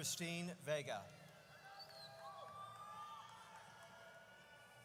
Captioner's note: audience cheers